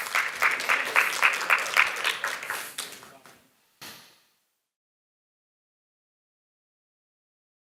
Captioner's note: applause